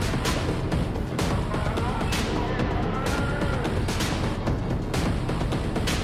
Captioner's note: shouting; techno music continues